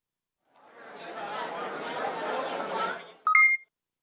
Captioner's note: crowd murmuring